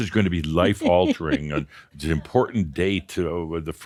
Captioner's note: she chuckles